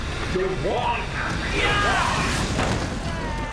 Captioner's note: yells